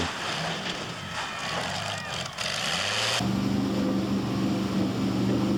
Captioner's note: engine roars and gurgles